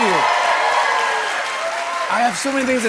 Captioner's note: cheers and applause